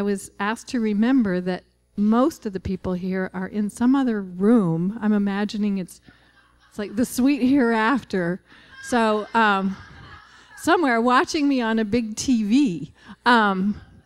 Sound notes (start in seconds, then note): 8.5 laughter